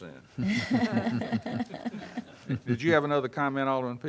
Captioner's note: members laugh